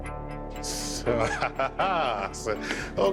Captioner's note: laughs